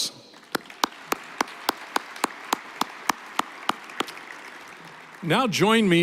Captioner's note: applause